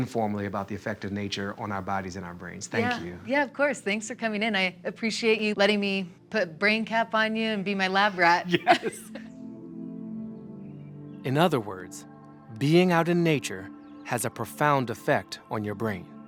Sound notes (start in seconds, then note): 8.4 laugh; 9.5 calming music